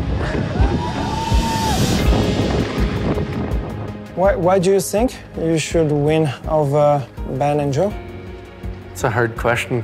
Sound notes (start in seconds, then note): 0.1 crowd cheering; 2.9 wind whirling